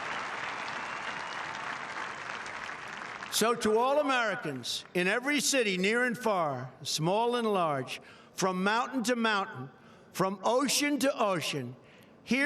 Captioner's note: applause